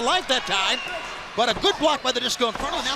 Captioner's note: crowd chatter